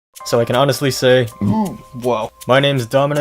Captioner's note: burp